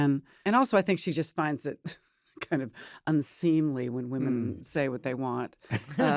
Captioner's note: laughs; laughter